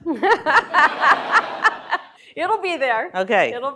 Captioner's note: laughter